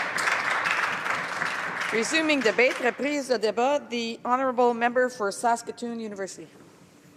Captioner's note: some Applause